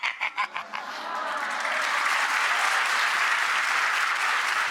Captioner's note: applause